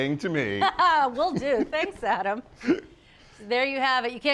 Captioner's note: laughs